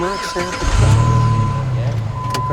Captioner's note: engine revving